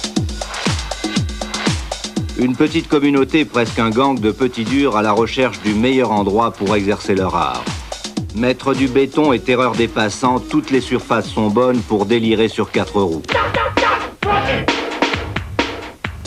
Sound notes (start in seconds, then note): 0.3 upbeat music; 3.0 speaking in foreign language